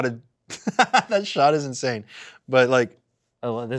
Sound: laughs

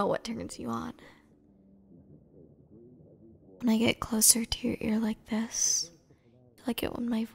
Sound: whisper

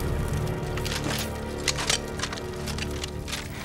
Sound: guns cocking

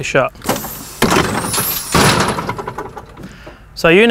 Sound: loud banging

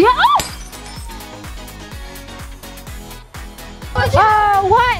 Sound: glass breaks; upbeat music plays

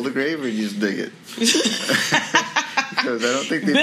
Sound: female laughs; both laugh

